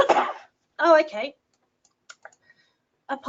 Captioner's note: coughs